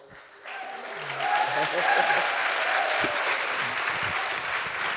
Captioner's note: audience applauding